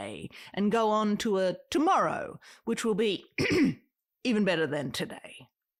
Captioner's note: ahem